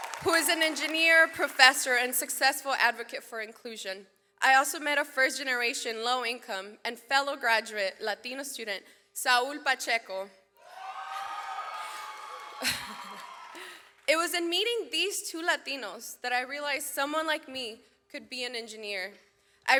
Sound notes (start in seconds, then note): 10.6 audience cheers; 12.4 laughs